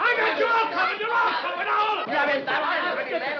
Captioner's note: clamoring